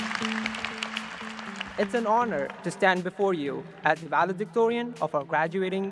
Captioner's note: cheers and applause